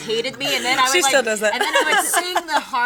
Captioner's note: all laughing